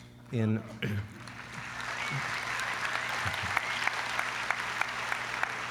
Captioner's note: applause